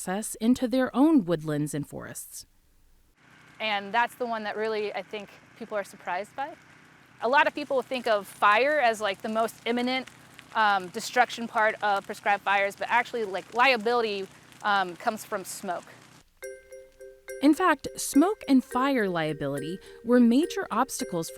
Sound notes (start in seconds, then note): 13.1 flames crackling; 16.4 light tense music